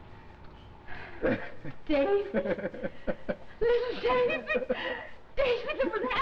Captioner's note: man laughs